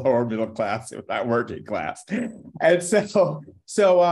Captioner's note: laughing